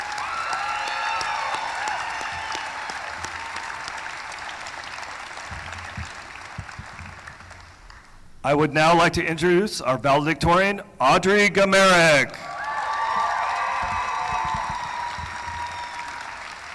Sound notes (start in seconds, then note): 2.6 applause; 12.4 cheering; 12.4 applause